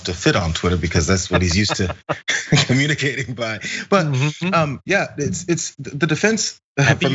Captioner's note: laugh